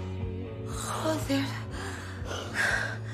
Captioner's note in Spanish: susurrando